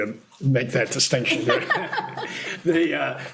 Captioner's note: laughter